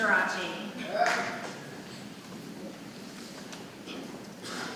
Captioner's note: man cheering